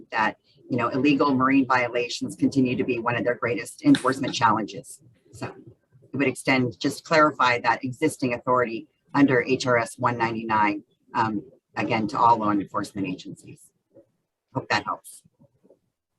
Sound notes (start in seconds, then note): none